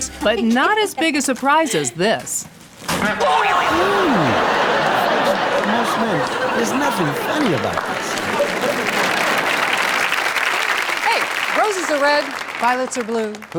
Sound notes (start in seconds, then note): 2.9 horn honks and man cries out in pain; 4.2 audience laughing and clapping